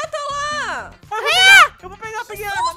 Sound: screams

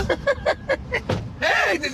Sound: laughing

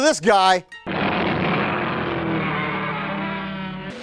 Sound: roaring

